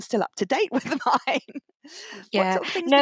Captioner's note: laughs